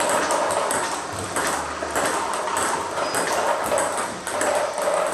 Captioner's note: ball ping pong hitting continues